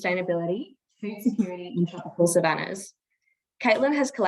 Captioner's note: audio distorts